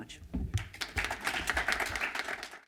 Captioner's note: applause